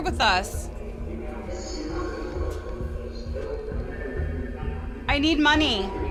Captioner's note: distorted speaking